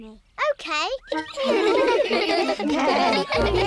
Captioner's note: giggling